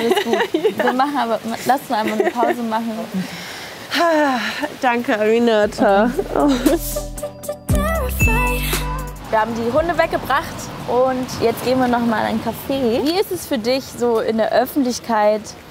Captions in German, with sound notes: Alles gut. Lass uns einfach 'ne Pause machen. (Tiefes Atmen) Danke, Aminata. (Neugierige Musik) Wir haben die Hunde weggebracht und jetzt gehen wir noch mal in ein Café. Wie ist es für dich so in der Öffentlichkeit ...